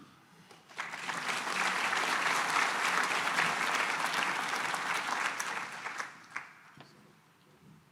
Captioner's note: applause